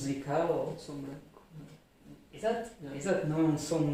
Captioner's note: white noise